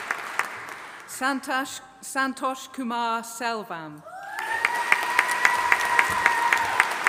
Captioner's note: audience applauding